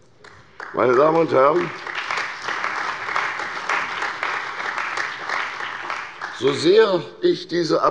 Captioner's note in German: Beifall bei der CDU und dem BÜNDNIS 90/DIE GRÜNEN